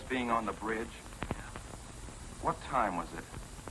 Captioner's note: on phone